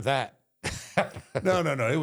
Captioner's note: Michael laughs